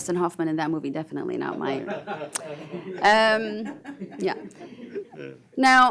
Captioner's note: panelists laugh